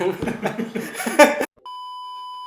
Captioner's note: laughs